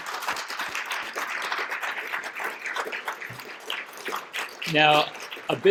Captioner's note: applause